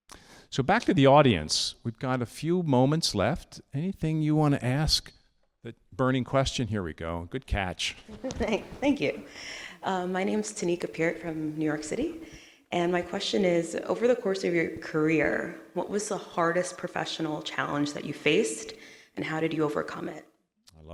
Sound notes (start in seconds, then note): 8.0 all laughing